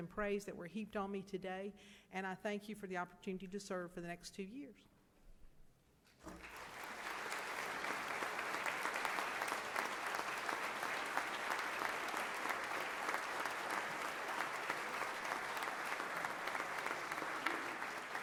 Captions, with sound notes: I hope to continue to earn some of these merits and praise that were heaped on me today. And I thank you for the opportunity to serve for the next two years. [audience applause]